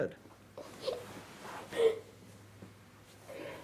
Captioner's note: crying